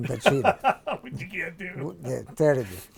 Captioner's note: laughs